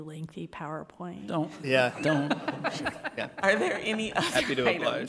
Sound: group laughs

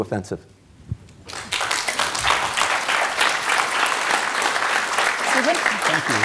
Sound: audience applauding

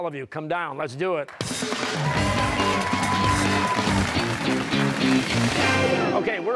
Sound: cheers and applause

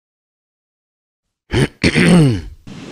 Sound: clears his throat

